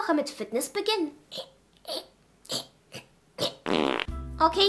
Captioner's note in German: Sie stöhnt und furzt